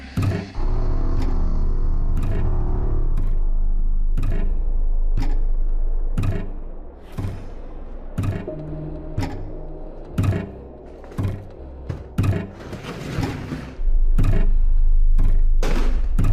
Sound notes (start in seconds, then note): 0.2 soft eerie music; 2.6 object thudding rhythmically; 2.6 soft tense music; 12.7 soft eerie music